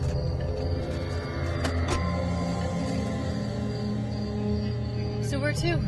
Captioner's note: car door